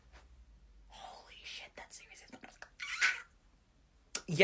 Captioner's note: whispered